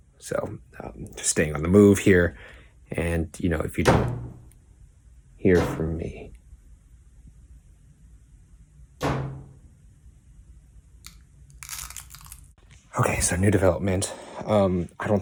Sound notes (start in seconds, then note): 3.8 door slams; 9.0 door shuts; 9.0 door slams